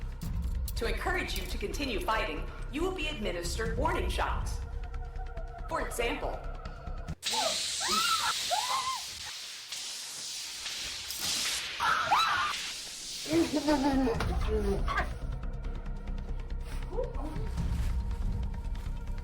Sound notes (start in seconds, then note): 7.2 electric shock; 7.4 screams